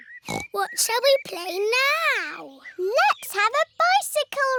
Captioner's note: snorts